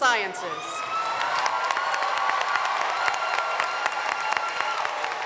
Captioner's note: applause